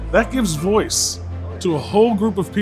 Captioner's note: none